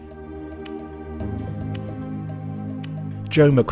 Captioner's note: voiceover